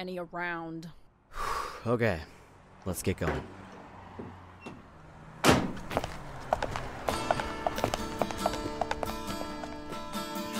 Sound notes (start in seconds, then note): 5.3 van door closes; 5.6 footsteps